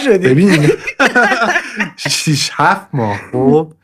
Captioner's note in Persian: خنده